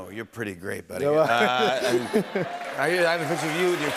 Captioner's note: laughter